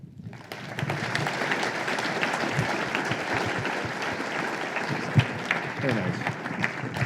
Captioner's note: applause